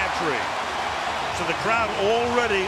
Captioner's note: cheering